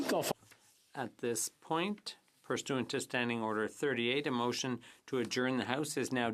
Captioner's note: speaking French